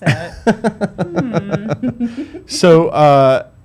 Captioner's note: laughs